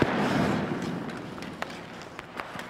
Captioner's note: stick slaps puck